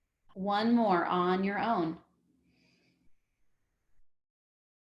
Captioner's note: inhales